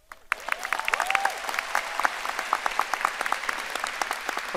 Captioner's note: audience applauding